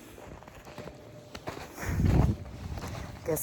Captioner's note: snow crunches underfoot; wind gusts